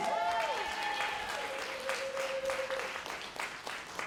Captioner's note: applause